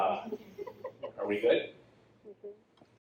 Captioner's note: audience laughs